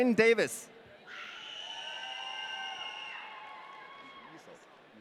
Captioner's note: audience cheering